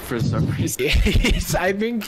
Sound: laughs

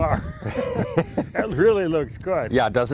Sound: both laughs

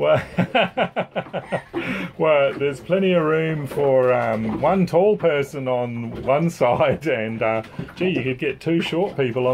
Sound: laughs

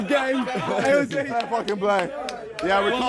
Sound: clapping

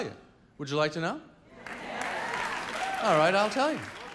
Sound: audience clapping

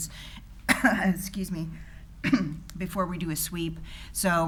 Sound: coughs

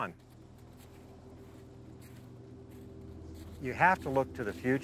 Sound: footsteps rustling in dry grass

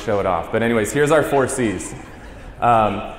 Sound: laughter

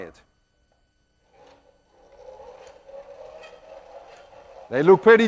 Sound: apparatus trundling

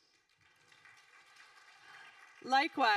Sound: audience applauding

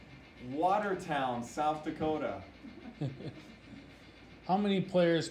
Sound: laughs

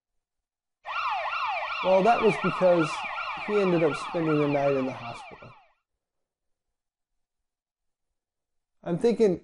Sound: sirens

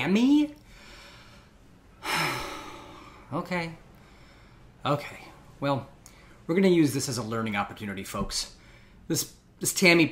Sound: deep sigh

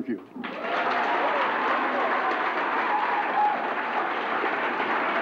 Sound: applause

